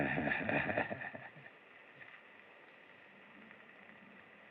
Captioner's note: chuckles